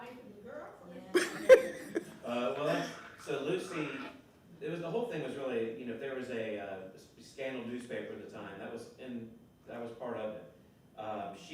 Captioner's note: laughter